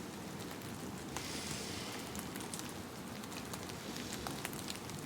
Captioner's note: sniffs